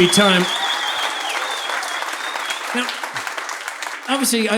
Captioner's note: audience applauding